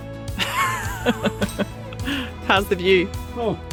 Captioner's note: laughing